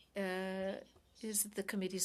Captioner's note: speaking in French